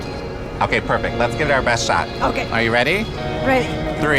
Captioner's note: speaking Spanish